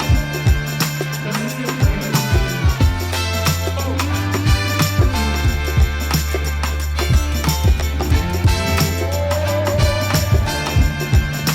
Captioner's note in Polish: Aplauz